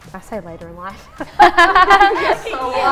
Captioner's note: laughs